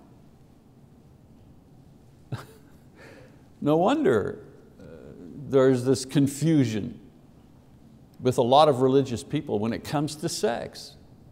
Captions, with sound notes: (laughs) No wonder there is this confusion with a lot of religious people when it comes to sex.